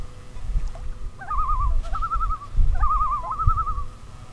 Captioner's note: loon calls